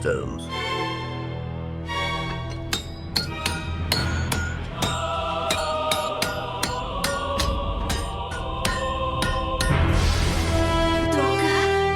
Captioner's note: hammer sounds